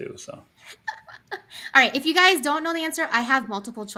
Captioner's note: laughing